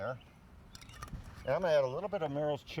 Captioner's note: lid clanging